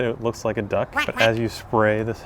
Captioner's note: duck quacks